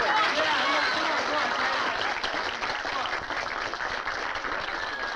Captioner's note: crowd applauding